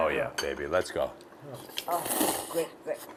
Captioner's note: slurps noodles